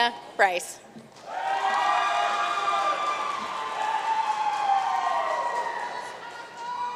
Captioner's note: audience cheering and applauding